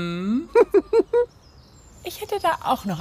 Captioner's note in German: kichert